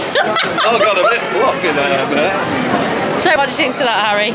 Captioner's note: laughter